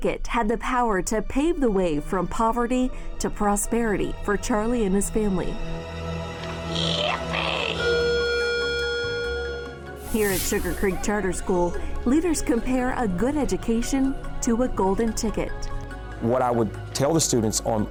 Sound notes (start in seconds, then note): 8.2 bell sounds